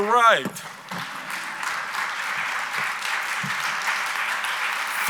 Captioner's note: audience applauds